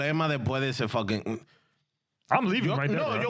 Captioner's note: speaking In Spanish